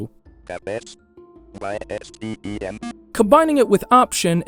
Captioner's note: beep